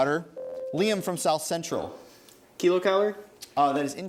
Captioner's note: ding